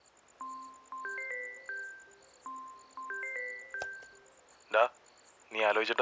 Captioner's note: phone ringing